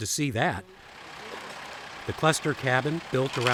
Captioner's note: machine motor revving